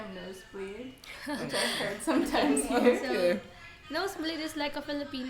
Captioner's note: laughs